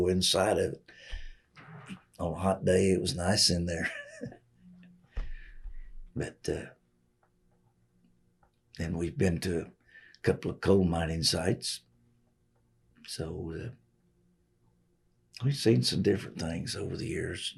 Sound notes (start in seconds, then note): 3.6 laughs